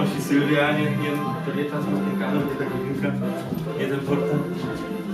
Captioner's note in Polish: ponownie mamrot